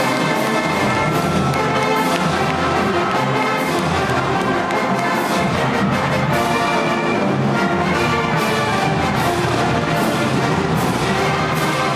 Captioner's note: cheers and applause